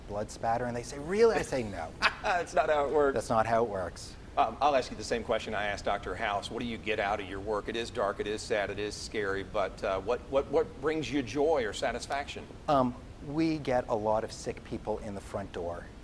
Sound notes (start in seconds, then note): 1.9 laughing